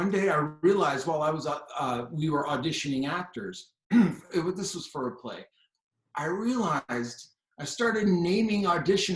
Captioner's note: cleared throat